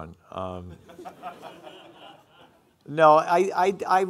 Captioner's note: audience laughing